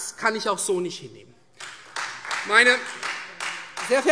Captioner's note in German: Beifall Freie Demokraten